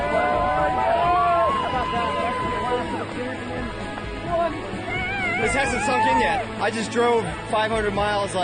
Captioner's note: cheers